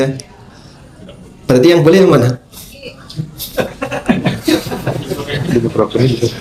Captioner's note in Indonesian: tertawa